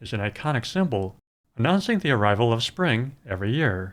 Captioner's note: none